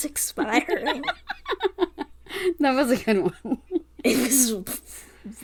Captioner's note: laughing; laughs